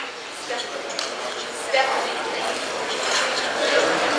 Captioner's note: crowd chattering